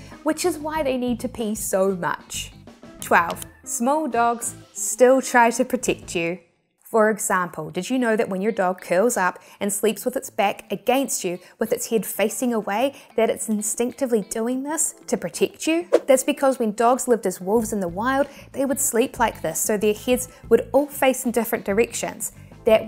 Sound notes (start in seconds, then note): 3.2 graphics clicking; 15.9 graphics whooshing